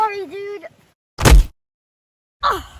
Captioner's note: thud